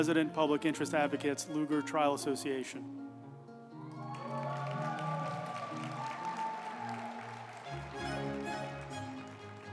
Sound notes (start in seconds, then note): 3.8 group applauding; 4.1 uplifting music